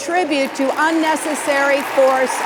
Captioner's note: applause